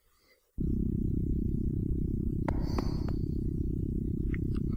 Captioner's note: pulsating sound